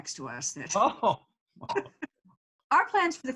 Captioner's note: laughing loudly